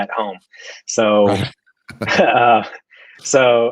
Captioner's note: laughs